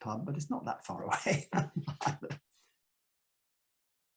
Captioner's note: chuckles